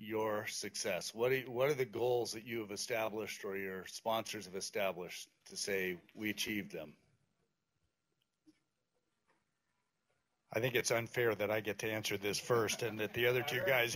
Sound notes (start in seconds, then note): 7.3 pause